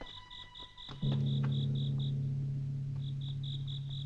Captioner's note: gong chiming